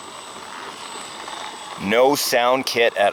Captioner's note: soft engine roaring